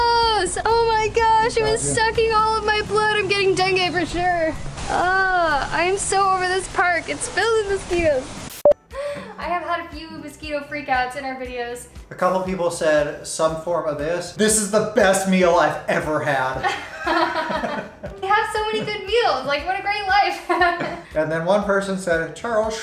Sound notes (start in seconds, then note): 16.6 laughter